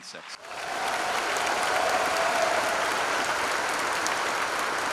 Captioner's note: applause